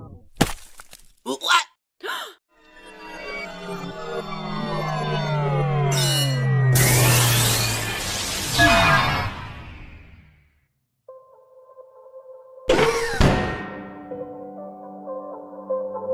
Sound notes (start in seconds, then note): 2.0 taco gasps; 5.9 activation sound